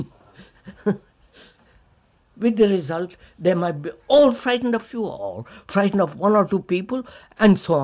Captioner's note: laughs